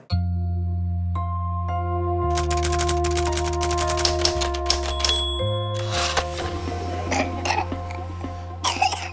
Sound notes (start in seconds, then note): 0.1 contemplative music; 2.3 typing clicks; 4.9 ding!; 6.5 coughs